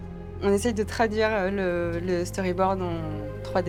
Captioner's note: in french